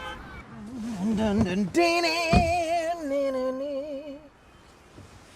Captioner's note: Jerry humming